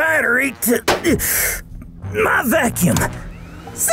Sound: grunts

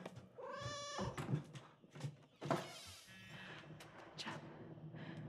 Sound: cat meowing

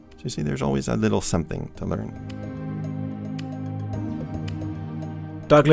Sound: voiceover

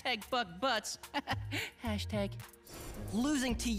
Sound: chuckling

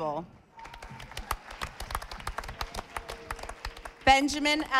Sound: audience applauding

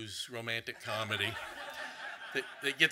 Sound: audience laughing

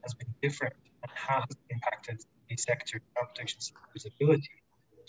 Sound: murmurs

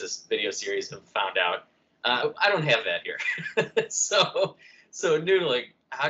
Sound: laughter

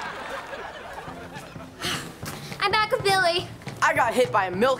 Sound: sighs

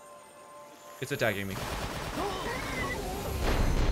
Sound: water gushing, groaning of death

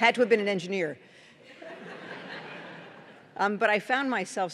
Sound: laughter

